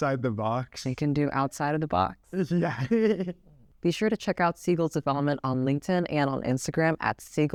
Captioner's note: laughs